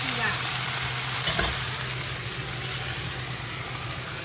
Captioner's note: sizzling